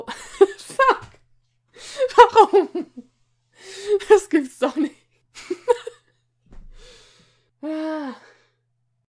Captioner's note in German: seufz